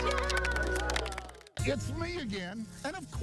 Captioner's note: clapping